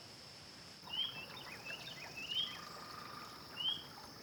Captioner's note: water gently flowing